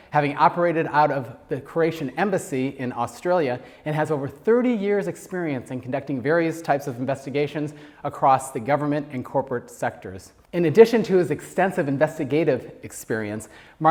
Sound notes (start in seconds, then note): none